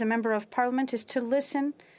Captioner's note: speaking French